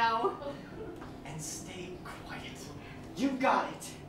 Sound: whisper

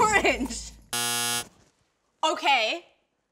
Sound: error buzzer

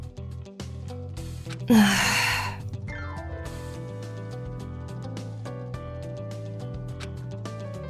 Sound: sigh

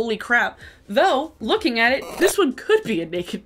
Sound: static squeals

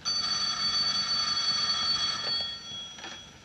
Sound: phone Rings

